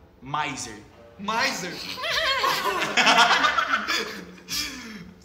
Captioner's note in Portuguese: risos